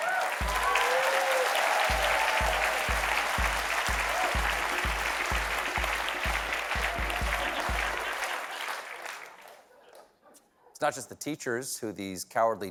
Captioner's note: applause